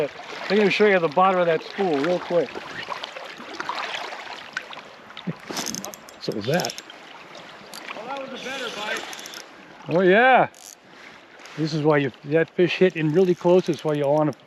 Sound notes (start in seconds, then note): 3.5 reel spinning